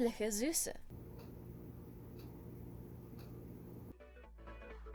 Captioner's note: clock ticking